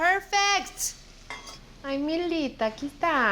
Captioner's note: speaking Spanish